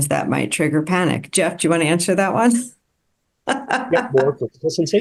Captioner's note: laughs